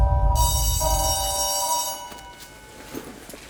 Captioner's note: alarm stops; school bell ringing